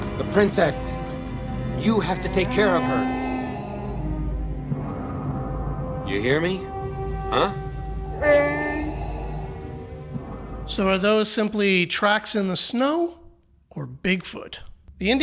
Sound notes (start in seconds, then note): 8.0 Chewbacca groans